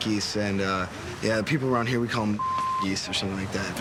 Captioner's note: beep